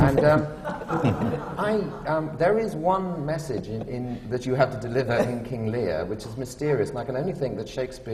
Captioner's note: laughter